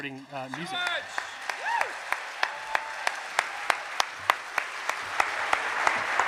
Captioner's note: cheers and applause